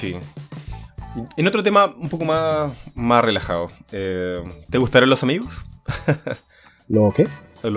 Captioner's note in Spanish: risas